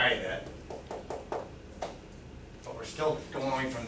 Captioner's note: fingers tapping